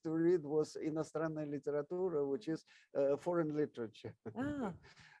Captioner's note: speaks in foreign language